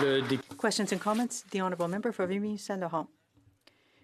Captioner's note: some Applause